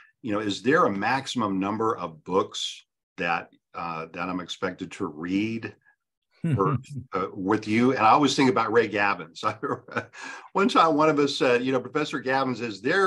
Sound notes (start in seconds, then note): 6.4 chuckles; 9.7 laughs